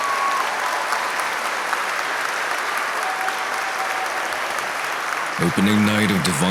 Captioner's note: applause